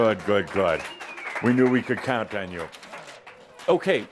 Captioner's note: some applause